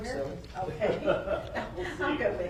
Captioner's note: laughing